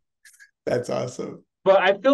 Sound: laughs

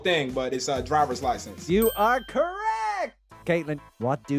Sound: bell dings

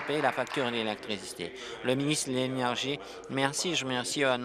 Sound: applause

